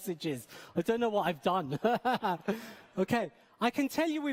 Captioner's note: laughing